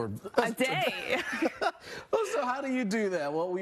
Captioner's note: laughing